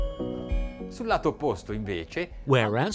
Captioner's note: speaking in a foreign language